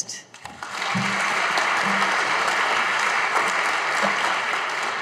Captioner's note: audience applauding